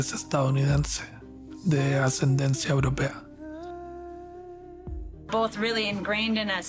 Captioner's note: narrator speaking Spanish